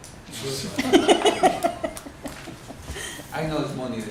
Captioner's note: laughter